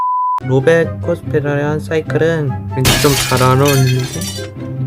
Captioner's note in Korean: 쨍그랑